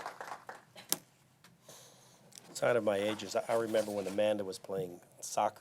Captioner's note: applause